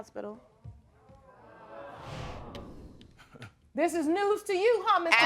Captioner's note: audience murmuring